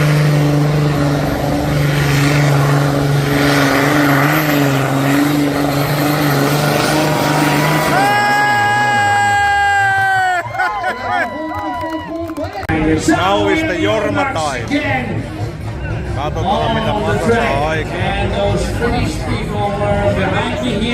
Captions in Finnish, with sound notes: [Aplodeja] Jormaa. Katsotaan, mitä saa aikaan.